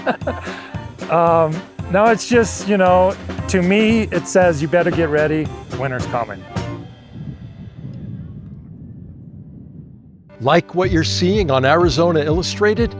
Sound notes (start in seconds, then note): 6.8 wind blows